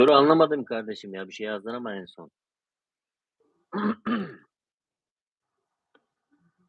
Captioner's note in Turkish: boğazını temizler